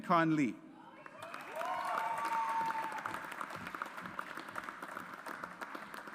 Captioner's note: audience applauds